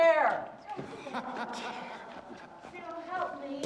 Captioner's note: hugh laughs